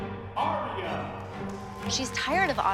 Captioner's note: applause and cheering